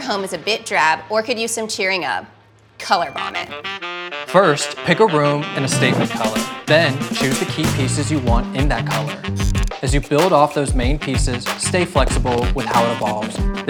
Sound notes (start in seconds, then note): 2.9 words chiming